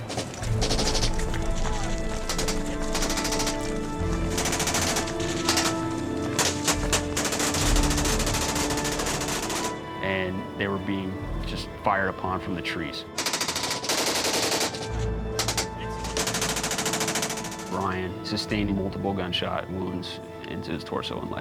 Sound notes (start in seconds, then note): 0.4 gunfire; 13.2 gunfire